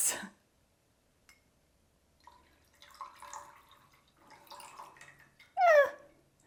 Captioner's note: pouring sound